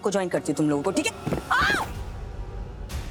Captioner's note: yells